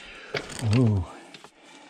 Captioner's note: heavy breathing